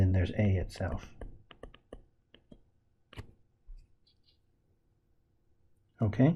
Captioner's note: tapping Sounds